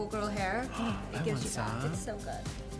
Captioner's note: gasps